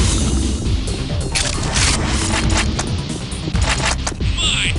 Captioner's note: guns blasting; upbeat techno-rock music; gun cocking